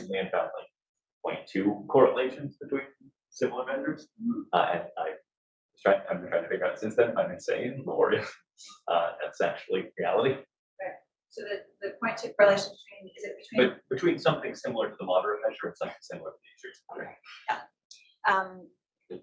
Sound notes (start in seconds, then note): 7.8 laughs